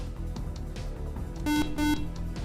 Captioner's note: beep